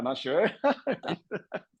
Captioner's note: laugh